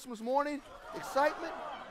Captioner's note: crowd laughs